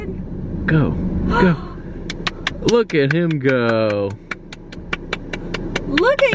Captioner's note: clapping